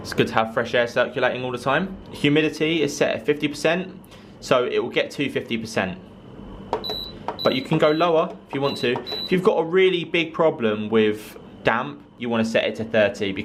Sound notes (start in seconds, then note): 6.8 dehumidifier beeping